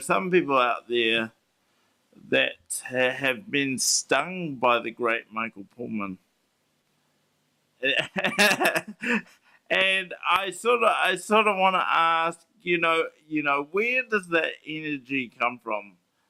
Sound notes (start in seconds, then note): 7.8 laughs